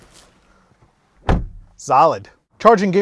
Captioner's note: door shuts